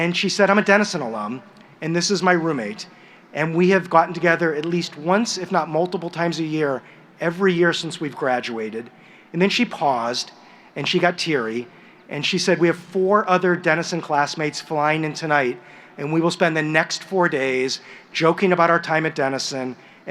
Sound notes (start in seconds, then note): none